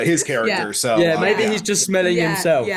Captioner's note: laughs